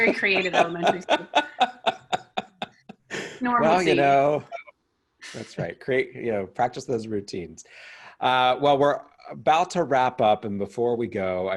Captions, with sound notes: - A very creative moment. (chuckling) Normalcy. - Well, you know. That's right, practice those routines. Well, we're about to wrap up and before we go,